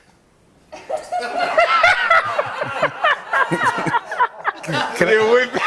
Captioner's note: laughter